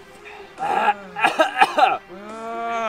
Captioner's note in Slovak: prudký a hlasný výdychový manéver